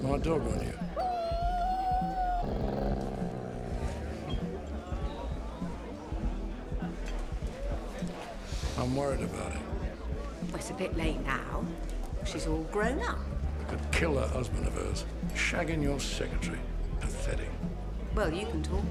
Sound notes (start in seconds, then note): 0.4 dog growling; 0.9 dog whines; 3.1 dog growls; 5.2 attendees chattering; 5.2 upbeat music